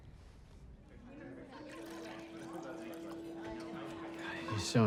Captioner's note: background chatter